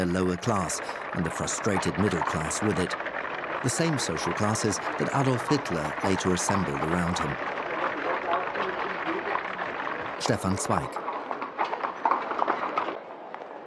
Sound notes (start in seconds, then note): 8.0 carriages clattering